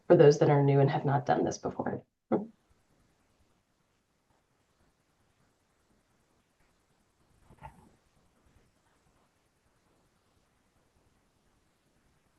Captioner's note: pause